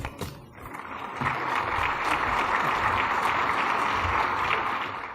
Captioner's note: applause